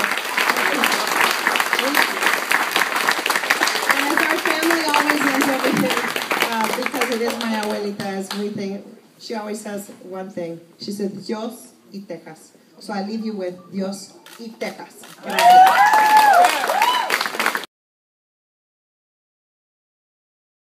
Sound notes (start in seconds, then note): 0.2 Spanish; 8.6 applause; 8.7 Spanish; 15.2 applause